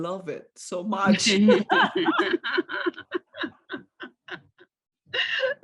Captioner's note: laughter